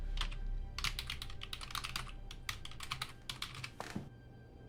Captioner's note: keyboard clacking